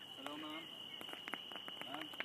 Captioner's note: tossing rocks